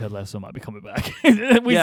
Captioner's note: both laughing